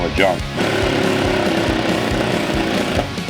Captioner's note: drill runs